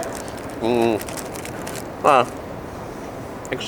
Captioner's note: eating